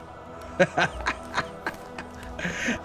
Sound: laughs

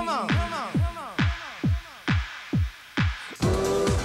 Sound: echoing

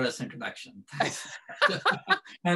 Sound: laughter

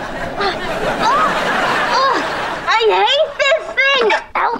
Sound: groaning

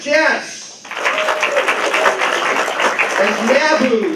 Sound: applause

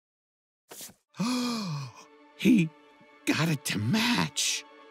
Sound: gasps

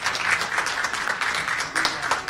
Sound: cheers and applause

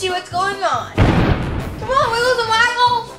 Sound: loud booming

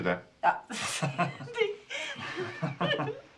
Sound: laughing

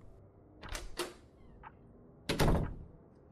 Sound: door opening and closing, clock ticking

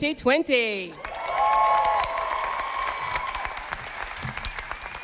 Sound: audience applauding

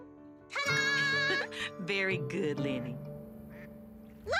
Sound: duck quacks

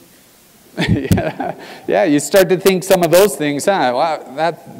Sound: laugh

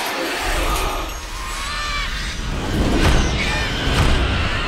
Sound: infant cries

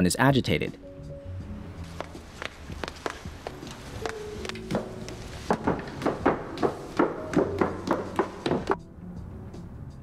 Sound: heels clicking on floor

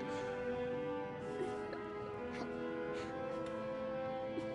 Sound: laughing

